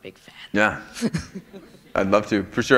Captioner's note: chuckle